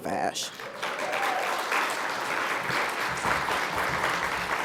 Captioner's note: audience applauds